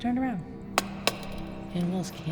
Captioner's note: torch taps